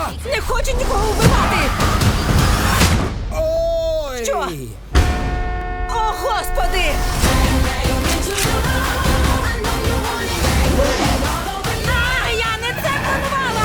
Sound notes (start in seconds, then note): 1.5 brakes screech; 2.6 thud; 4.8 horn blares